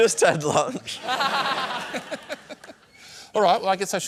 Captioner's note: laughter